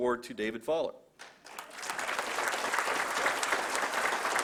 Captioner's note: applause